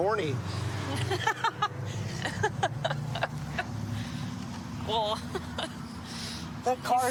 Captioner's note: laughing